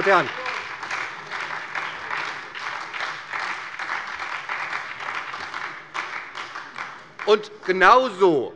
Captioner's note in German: Beifall bei der SPD